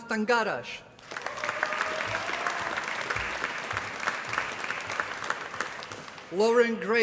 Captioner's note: applause